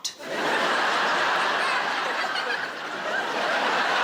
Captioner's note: audience laughing